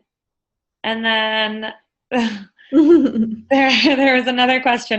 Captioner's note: laughs